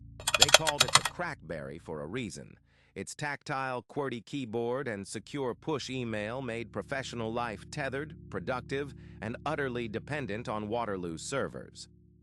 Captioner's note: SFX: mechanical keyboard clacking